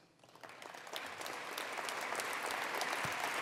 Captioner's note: applause